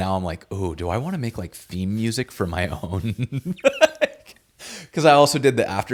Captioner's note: laughs